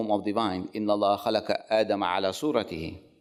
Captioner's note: speak foreign language